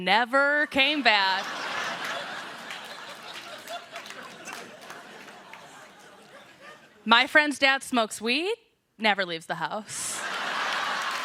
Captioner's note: laughter